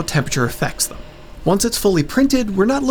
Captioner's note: fan go Brrrr